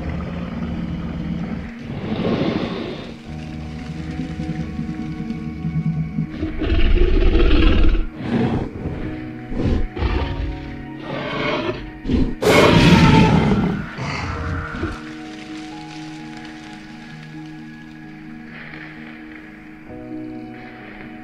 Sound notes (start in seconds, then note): 7.7 growling; 12.4 shrieking; 13.3 roaring; 17.7 rustling